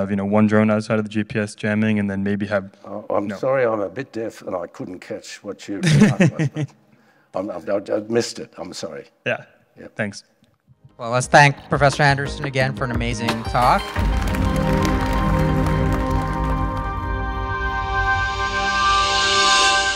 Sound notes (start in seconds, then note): 13.3 audience applauding; 13.9 upbeat music; 17.2 bright music